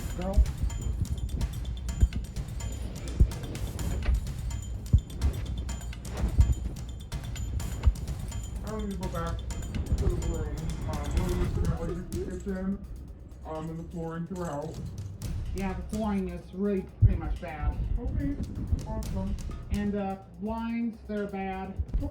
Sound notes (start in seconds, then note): 9.4 altered/distorted; 17.2 altered/distorted